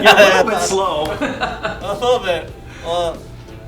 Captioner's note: laughing